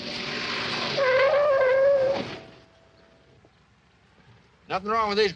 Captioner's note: tires screeching